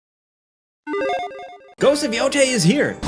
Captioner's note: logo beeping